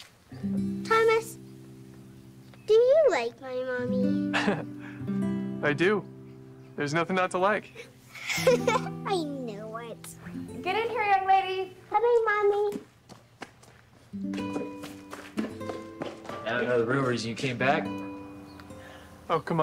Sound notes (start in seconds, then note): 0.2 gentle music; 4.3 Thomas chuckles; 8.1 Joslyn laughs